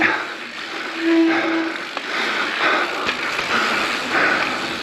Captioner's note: brakes squeak